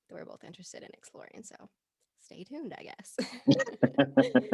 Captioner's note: both laughing